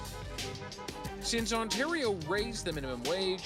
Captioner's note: car horns beeping